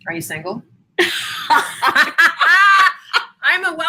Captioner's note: both laugh